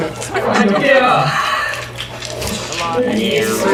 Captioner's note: laughs